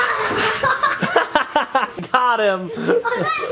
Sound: laugh

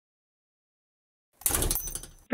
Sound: door closing sound

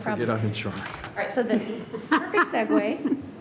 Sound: people laughing

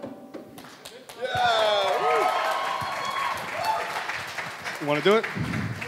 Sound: audience applauding

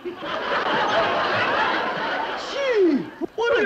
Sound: audience laughs

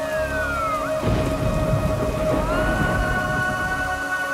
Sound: sirens playing; sombre music playing

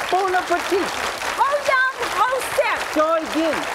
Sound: foreign language

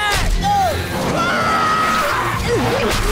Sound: screaming

